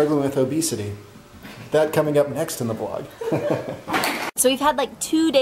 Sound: laughs

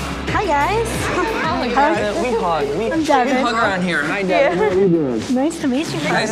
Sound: rock music; overlapping chatter

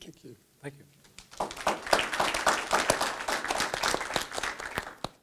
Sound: clapping

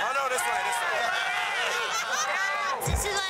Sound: cheers and applause

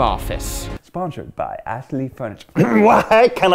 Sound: clears throat

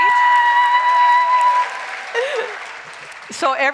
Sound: crowd cheers

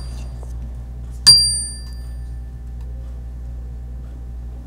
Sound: bell chiming

